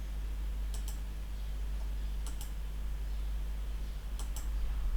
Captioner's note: clicking on screen